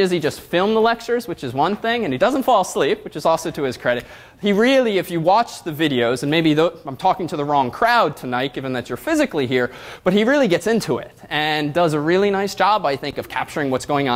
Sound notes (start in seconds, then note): none